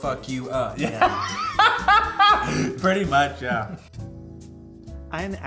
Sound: laughs

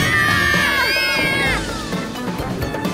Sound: screaming

